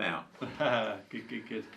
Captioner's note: chuckles